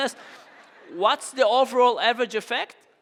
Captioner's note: audience laughing